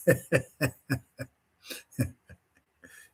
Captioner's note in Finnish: naurua